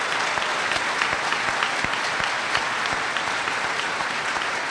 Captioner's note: applause